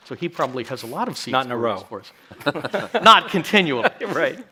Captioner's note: chuckles